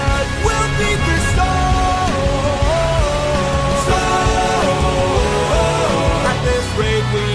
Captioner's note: storm